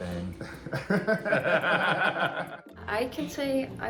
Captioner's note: both chuckling